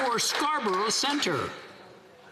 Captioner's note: some Applause